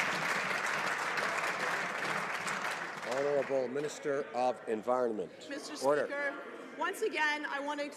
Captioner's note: some Applause